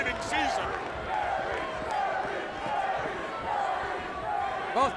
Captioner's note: crowd chatter